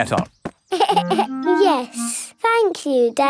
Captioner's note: giggles